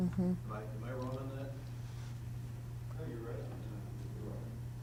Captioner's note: voiceover